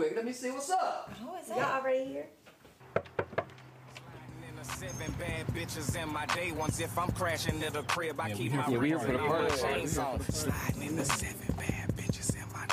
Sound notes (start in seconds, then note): 2.8 knocking